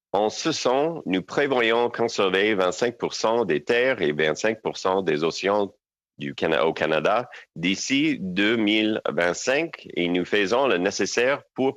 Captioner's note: speaking french